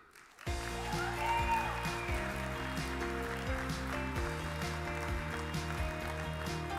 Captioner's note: audience claps; upbeat music